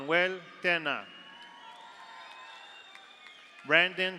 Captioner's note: audience cheers; audience applauds